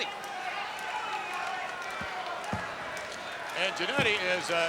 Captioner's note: crowd yelling